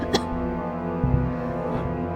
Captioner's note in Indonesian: batuk-batuk